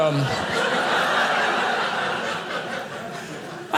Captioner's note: audience laughing